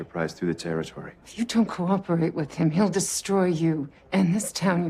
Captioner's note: none